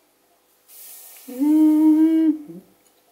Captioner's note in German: macht ein "Zucker" Geräusch